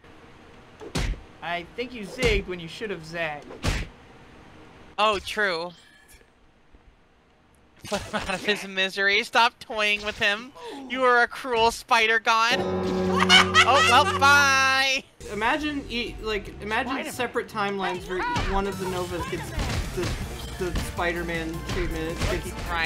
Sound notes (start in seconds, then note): 12.5 death knell